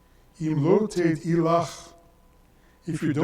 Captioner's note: speaks in foreign language